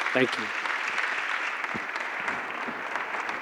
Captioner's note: applause